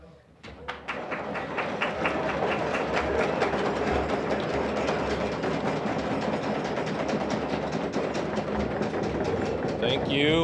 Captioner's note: audience rattling tables; applause